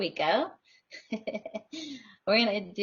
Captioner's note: laughs